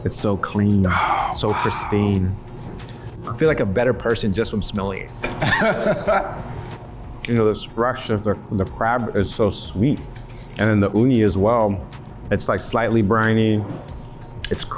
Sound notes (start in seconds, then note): 5.3 laughs